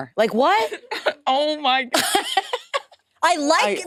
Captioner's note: laughs